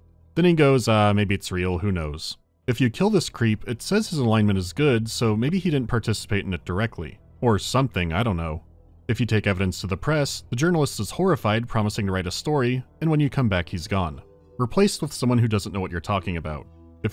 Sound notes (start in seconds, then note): none